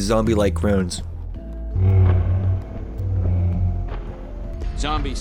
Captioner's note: Springtrap noises